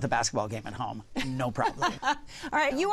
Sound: laughs

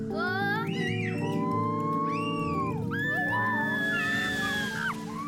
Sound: child screaming; child screaming

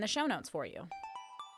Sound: chime

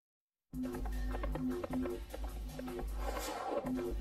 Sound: heart beating; hooves galloping

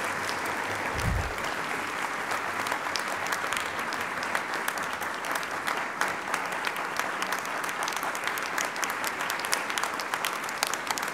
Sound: applause

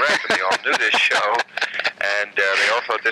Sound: laughing

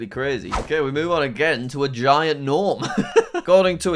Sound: laughs

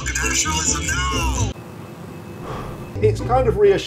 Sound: sighs

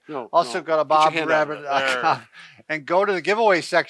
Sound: laughs

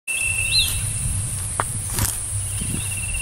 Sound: footsteps

